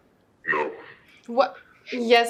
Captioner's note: altered male voice